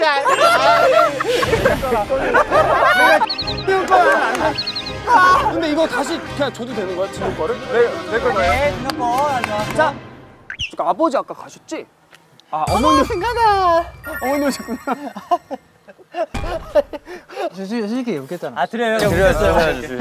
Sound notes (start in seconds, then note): 14.8 internal laughter